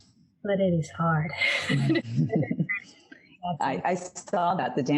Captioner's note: laughing